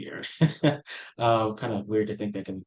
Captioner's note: laughing